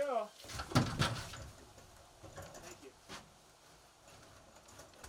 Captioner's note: hammer banging